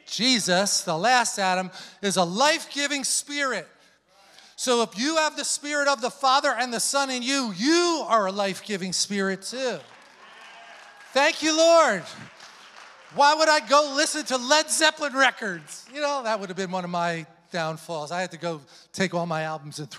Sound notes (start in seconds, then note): 10.2 congregation applauding